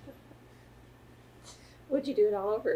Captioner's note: laughter